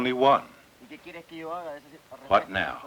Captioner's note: speaking Spanish